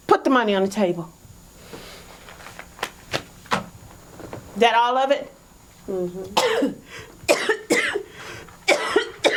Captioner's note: coughs